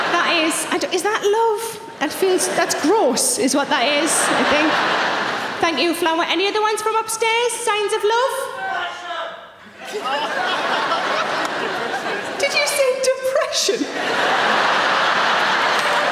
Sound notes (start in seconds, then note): 4.9 audience laughing; 8.7 audience member yells; 13.5 audience laughing